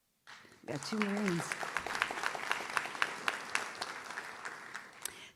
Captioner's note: audience claps